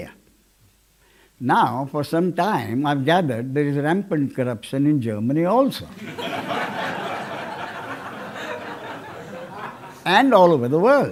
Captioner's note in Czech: smích